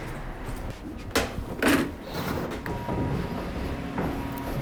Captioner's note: door opening